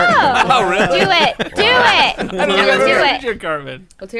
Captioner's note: laughter